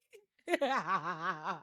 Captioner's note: laughs